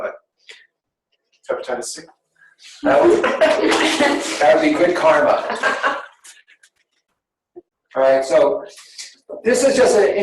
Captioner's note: laughter